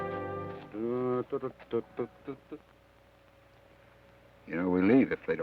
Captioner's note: Joshua hums melodically